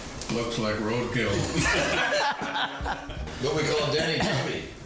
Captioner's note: all laughing